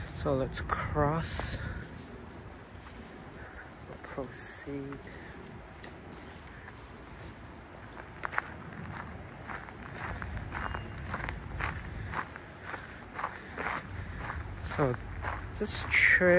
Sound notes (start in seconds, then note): 3.1 walking on gravel